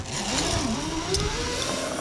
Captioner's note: zip line sound